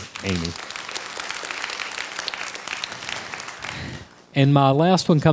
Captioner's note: crowd applause